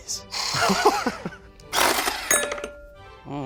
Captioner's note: laughing